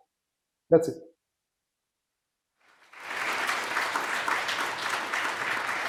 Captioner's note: applause